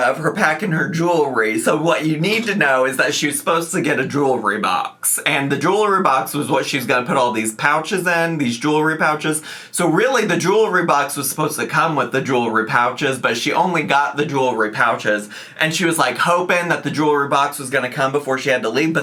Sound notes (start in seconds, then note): none